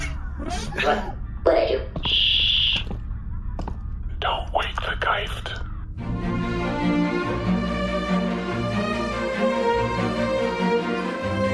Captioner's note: shushing